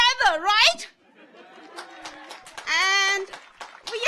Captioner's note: audience laughs; audience applauds